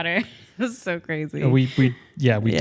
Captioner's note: laughs